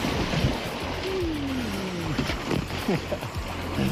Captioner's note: water splashing